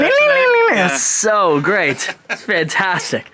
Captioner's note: laughs